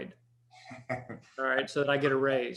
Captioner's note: chuckles